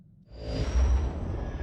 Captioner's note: wind howling